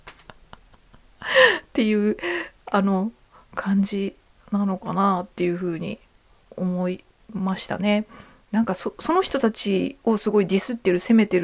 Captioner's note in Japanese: 息をのむ音